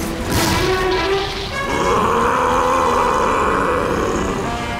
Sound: roaring

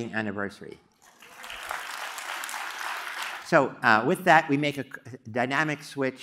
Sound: applause

